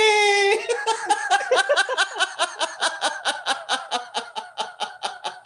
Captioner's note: laughter